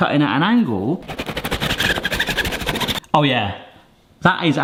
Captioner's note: knife slices